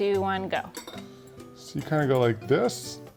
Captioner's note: fork clinking